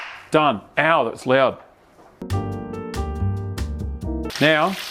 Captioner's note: claps